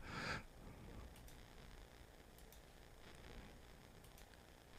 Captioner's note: mouse clicking